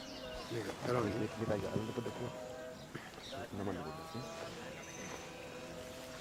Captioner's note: speaking in foreign language